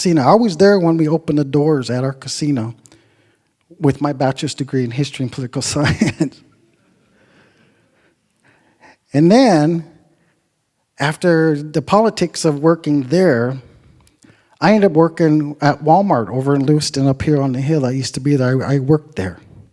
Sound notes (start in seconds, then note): 5.8 laughs; 5.9 audience chuckles